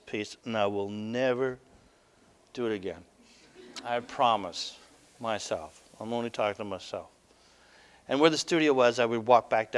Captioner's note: audience: Laughter